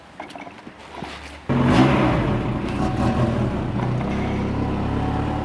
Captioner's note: engine starts